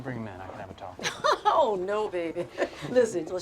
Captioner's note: Betty laughs